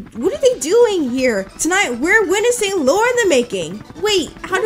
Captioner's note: dramatic reading